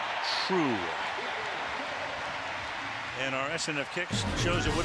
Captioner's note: cheering